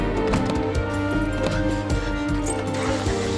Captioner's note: panting; engine turning over